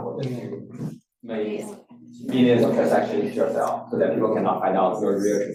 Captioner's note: student speaking faintly